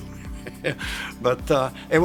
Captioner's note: laughs